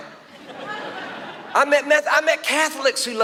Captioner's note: audience laughs